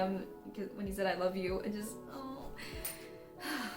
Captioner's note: sobs